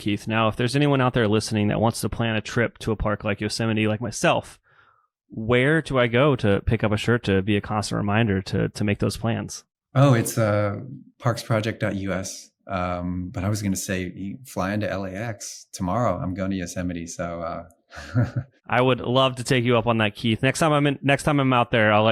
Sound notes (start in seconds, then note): 18.0 laughs